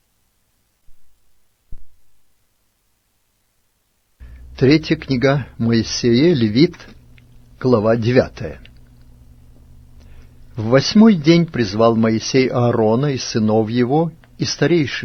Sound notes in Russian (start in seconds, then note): 9.0 тук